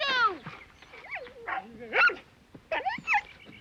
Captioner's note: barking